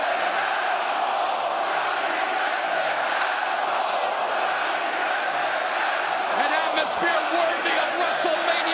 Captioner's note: crowd cheering